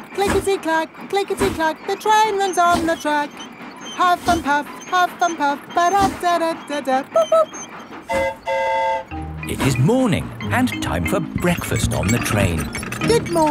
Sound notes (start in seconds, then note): 8.0 train whistle toots; 8.0 mimics train whistle